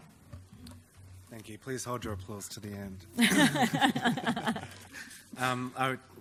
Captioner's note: laughs